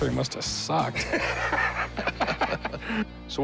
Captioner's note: laughter